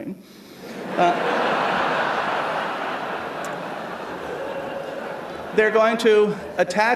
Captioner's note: laughter